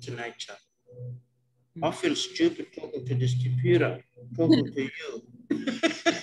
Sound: laughs

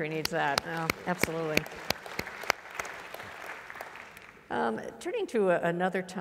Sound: applause

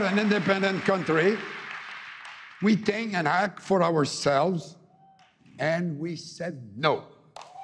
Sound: cheering and APPLAUSE

